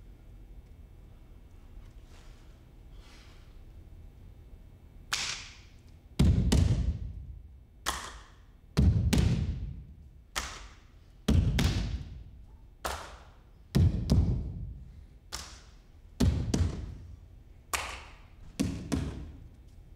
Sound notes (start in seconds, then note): 5.2 claps; 5.2 feet thumps; 7.8 claps; 10.3 claps; 10.3 feet thumps; 12.8 claps; 15.0 claps; 15.0 feet thumps; 17.7 claps